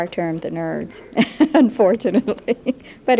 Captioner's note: chuckles